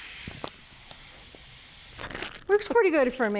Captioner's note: air siphoning